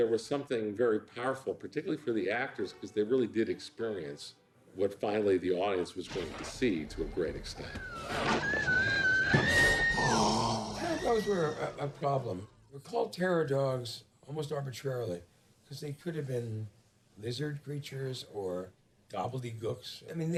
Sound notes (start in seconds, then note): 7.5 screaming; 8.8 growling